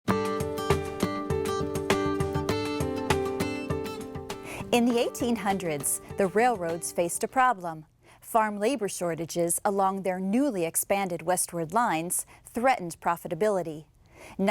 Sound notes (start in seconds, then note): 0.0 light guitar music; 4.8 voiceover